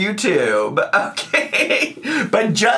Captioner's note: laughs